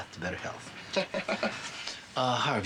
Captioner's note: chuckles